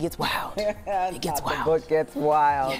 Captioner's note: reporter laughs